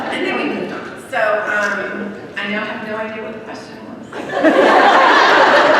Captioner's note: laughter